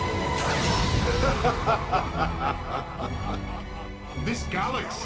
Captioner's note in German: lacht